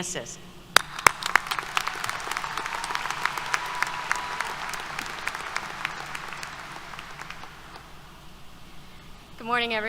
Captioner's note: applause